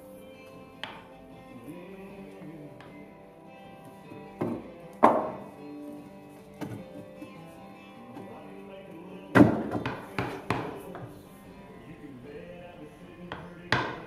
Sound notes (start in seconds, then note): 0.8 hammering